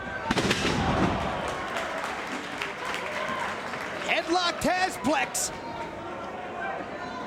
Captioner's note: applause